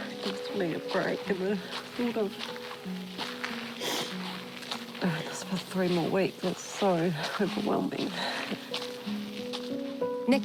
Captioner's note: sniffles